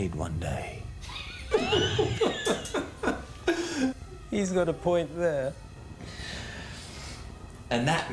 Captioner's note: laughs